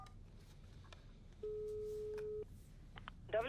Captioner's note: tone beeping